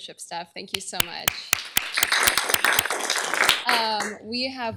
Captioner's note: applause